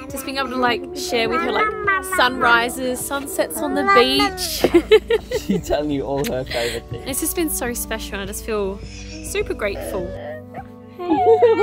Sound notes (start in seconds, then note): 5.3 laughs